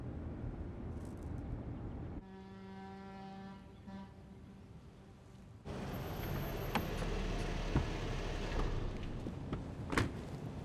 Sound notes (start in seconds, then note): 2.2 boat horn blowing